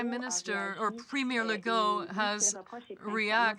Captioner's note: speaking french